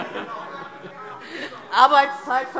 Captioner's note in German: Heiterkeit